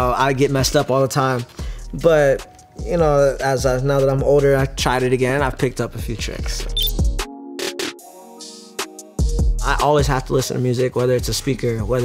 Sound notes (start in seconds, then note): 6.7 electronic beep; 6.8 hip hop music